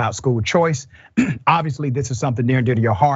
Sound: cough

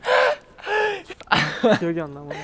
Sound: haha

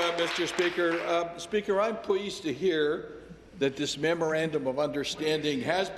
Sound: applause

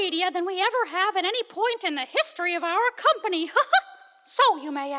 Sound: giggles

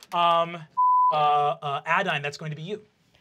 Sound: beep

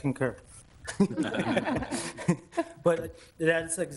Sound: members laughing

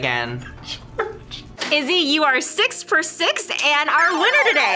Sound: laughs

